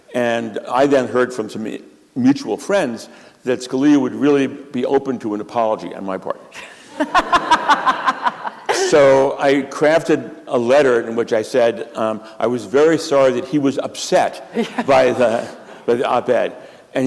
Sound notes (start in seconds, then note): 6.6 laughter